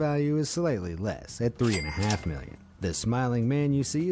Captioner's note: cash register ringing